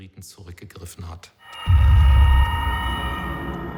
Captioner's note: eerie noises